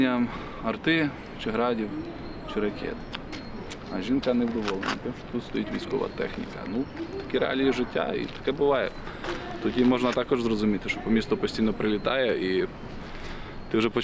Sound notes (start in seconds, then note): none